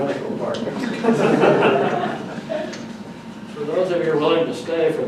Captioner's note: audience laughs